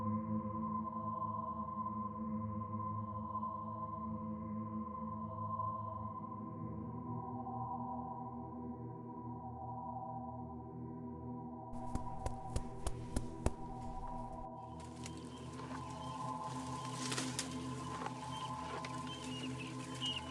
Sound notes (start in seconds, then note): 11.7 animal thumping; 14.7 birds chirping; 14.7 foliage rustling